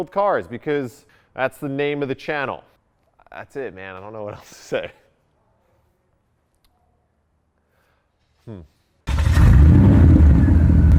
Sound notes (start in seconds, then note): 9.1 engine rumbling